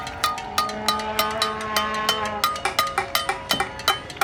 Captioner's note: horn blowing